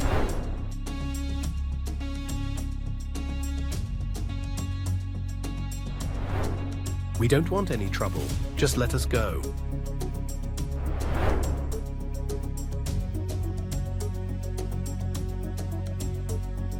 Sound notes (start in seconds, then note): 0.0 transition whooshing; 0.9 suspenseful music continues; 5.9 transition whooshing; 9.3 suspenseful music continues; 10.5 transition whooshing